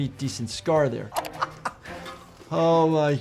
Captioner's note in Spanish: doctor riendo